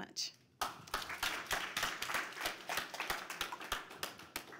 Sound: applause

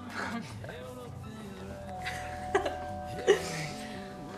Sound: doorbell ringing

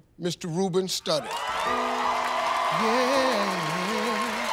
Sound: cheers and applause

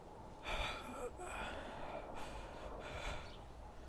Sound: BEN breathes weakly

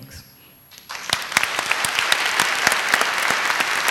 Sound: applause

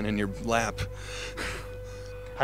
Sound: snickers

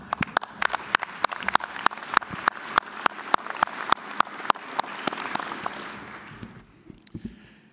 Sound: applause

